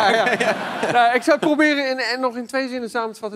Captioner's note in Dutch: gelach